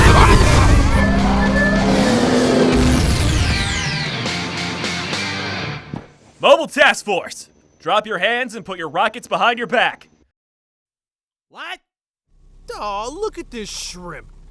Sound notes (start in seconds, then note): 1.9 engine revving down